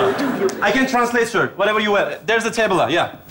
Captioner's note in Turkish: İngilizce konuşma